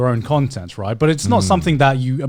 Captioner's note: affirmative murmuring